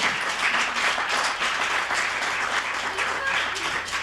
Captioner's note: audience applauding